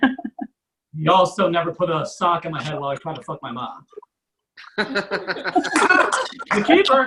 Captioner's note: audience Laughs